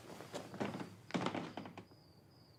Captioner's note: none